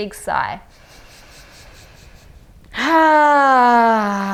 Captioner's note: inhales deeply